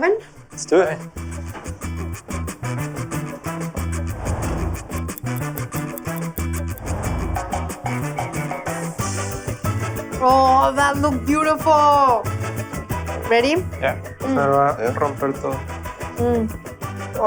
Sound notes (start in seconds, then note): 4.6 ticking; 14.3 speaks Spanish